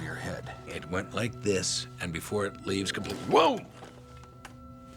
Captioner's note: exclaims